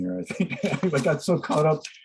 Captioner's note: laughs